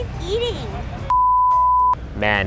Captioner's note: beeping